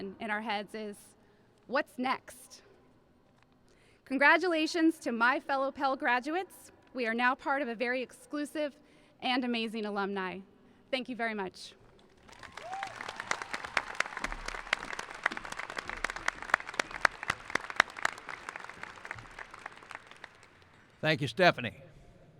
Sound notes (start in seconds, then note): 12.0 applauding; 12.3 cheering